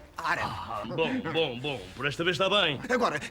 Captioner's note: pseudo-Arabic gibberish